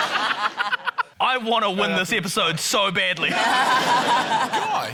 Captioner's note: laughter; laughter